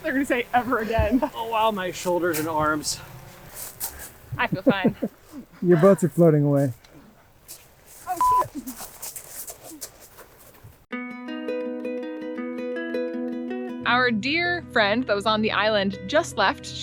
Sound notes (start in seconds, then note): 8.1 beep; 10.9 easy music